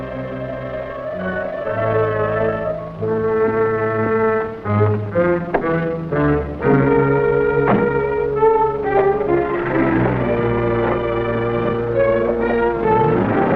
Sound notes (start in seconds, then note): 0.2 suspenseful music; 7.5 car door shuts; 9.6 engine starts; 12.0 suspenseful music; 13.3 engine rumbles